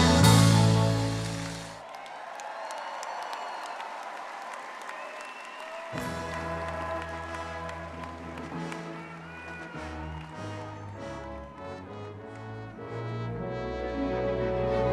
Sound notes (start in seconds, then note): 1.7 all cheering and applauding; 5.9 triumphant orchestral music